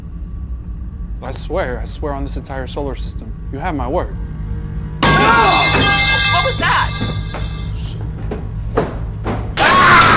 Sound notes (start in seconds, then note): 5.6 metal clanking; 9.5 Bannon screaming; 9.9 metal clanking